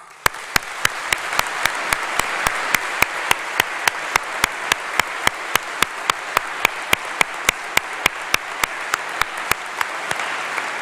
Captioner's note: applause